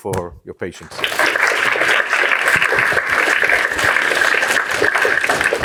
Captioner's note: applause